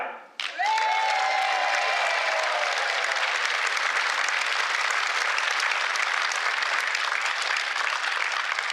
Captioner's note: applause